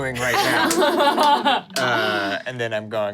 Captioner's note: everyone laughs